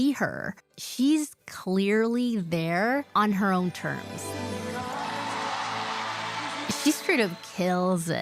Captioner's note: crowd cheering